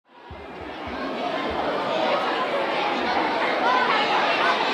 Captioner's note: pupils chattering